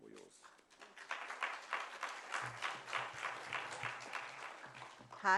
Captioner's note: applause